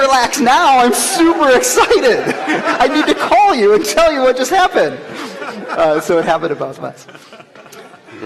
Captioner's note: laughter